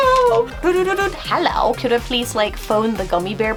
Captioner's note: phone sounds